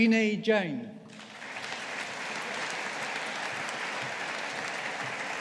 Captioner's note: audience applauding